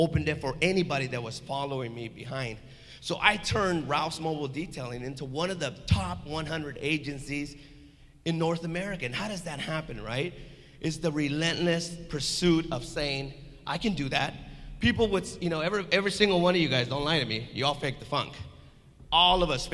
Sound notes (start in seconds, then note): none